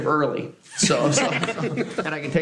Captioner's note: laughter